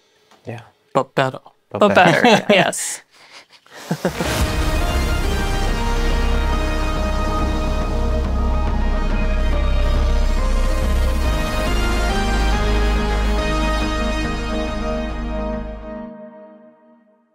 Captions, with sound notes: Yeah. But better. But better, yes. [laughter] [playful instrumental]